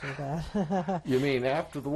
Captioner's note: laughter